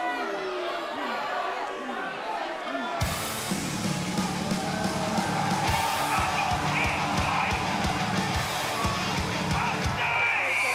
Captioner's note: cheers & boos